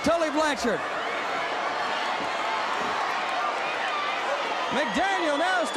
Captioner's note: crowd cheering